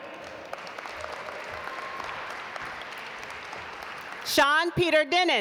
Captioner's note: audience applaud